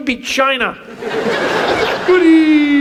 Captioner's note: audience laughs